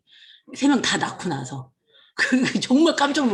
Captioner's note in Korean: 웃음